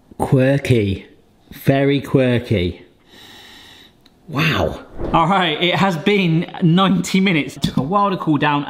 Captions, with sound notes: Quirky. Very quirky. (sniffing) Wow! All right, it has been 90 minutes. It took a while to cool down,